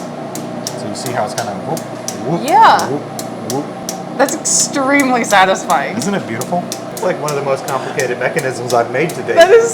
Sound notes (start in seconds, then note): 0.6 metal clicking; 0.7 machine whirring